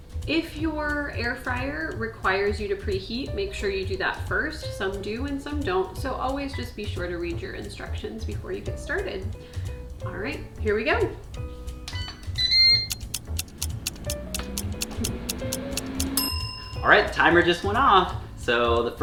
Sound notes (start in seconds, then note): 12.4 air fryer starts & timer ticks; 16.1 ding!